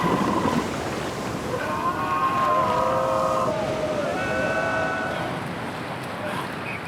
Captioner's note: student's yelling in unison